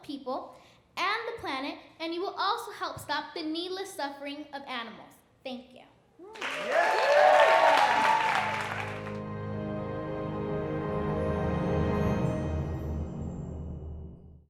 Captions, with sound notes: of people and the planet, and you will also help stop the needless suffering of animals. Thank you. (clapping and cheering) (light orchestral music)